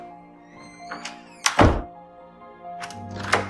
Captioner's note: door shuts